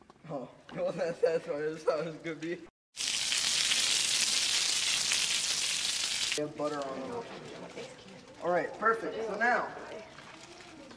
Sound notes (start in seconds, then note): 2.9 sizzling